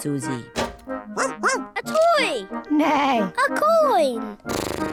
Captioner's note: barks; neighs; snorts